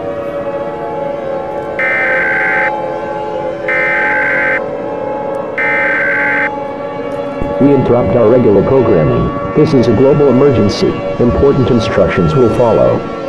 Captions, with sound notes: [EAS Tones] We interrupt our regular programming. This is a global emergency. Important instructions will follow.